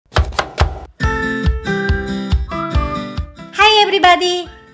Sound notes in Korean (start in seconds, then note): 0.0 배경음악과 함께 칼도마소리